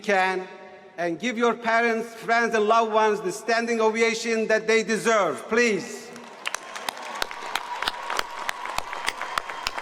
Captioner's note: applause